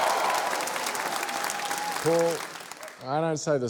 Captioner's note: cheering, applause